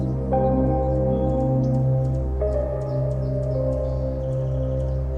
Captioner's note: birds chirping